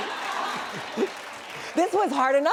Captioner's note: laughter and applause